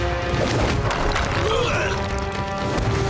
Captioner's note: groaning